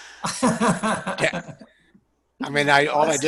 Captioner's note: laughing